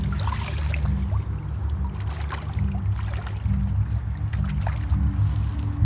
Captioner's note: water squishes around feet